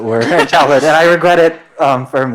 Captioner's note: audience laughs